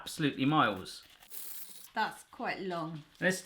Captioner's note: high speed unravelling